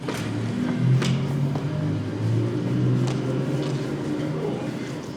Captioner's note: car engine roars